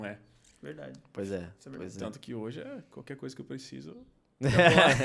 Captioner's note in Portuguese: risos